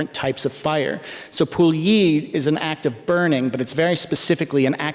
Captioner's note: non-english speech